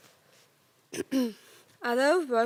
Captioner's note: rustling; clears throat